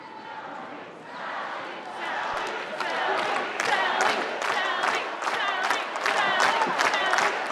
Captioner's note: chanting